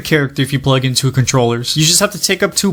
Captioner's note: none